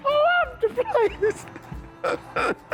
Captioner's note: laughing